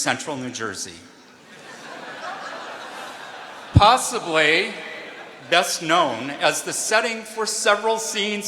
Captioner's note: laughter